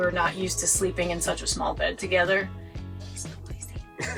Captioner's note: whispers